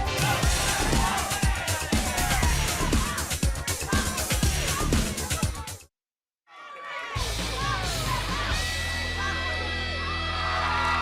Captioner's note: crowd cheering